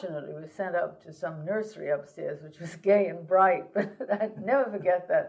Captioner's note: laughter